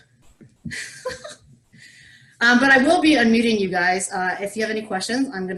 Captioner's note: giggles